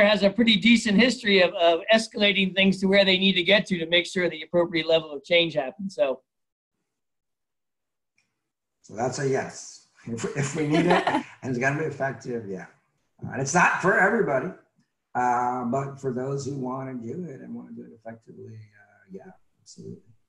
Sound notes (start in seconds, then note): 10.2 laughs